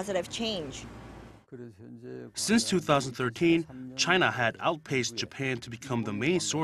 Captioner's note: Korean